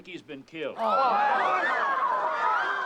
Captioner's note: crowd; crowd exclaiming